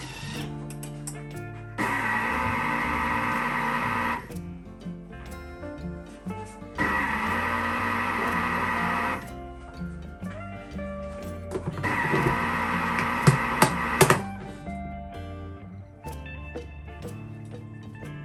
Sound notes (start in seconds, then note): 2.8 angry Thermox noises